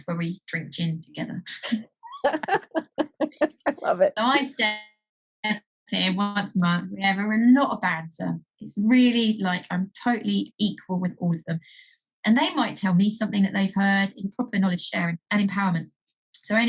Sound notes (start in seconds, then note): 2.1 laughs